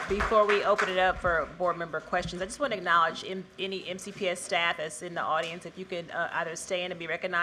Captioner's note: cheers and applause